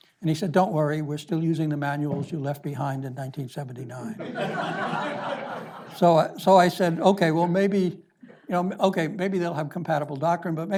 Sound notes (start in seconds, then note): 4.1 audience laughs